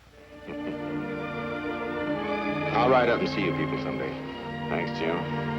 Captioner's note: laughs